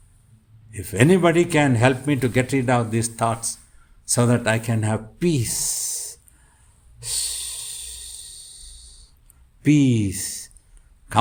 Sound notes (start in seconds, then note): 7.0 makes a cooling down noise